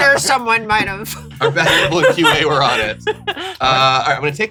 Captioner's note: laughs